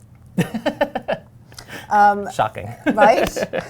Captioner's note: laughing